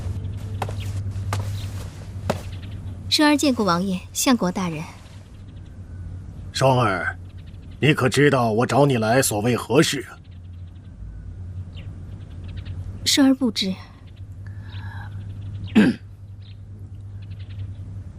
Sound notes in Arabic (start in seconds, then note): 15.7 سعال